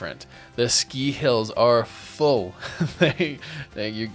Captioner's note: laughs